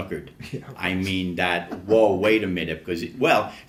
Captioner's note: laughs